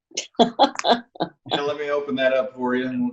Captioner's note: laughing